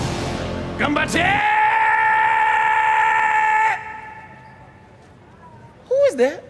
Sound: yelling

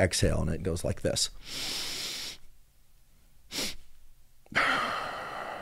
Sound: inhale, exhale

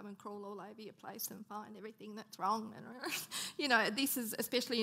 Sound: laughing

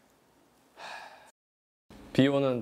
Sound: sigh

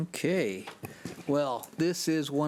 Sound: none

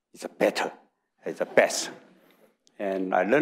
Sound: audience laughing

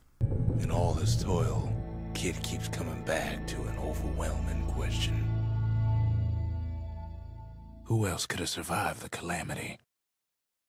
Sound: in-game audio

